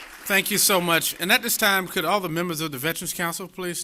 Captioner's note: applause